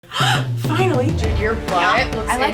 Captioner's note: gasps